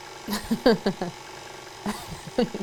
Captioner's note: laughs